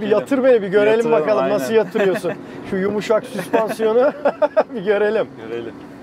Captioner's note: laughing